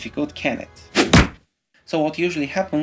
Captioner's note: hand slap sound